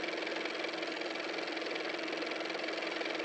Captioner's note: car motor